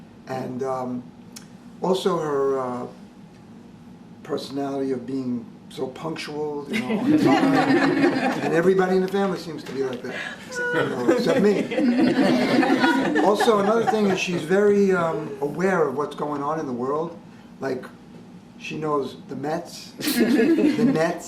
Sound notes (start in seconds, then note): 6.7 laughter; 10.9 laughter; 20.0 laughter